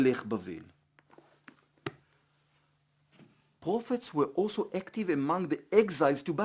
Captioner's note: Hebrew